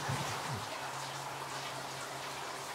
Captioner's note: water splashing